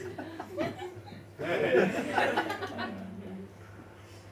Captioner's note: laughter continues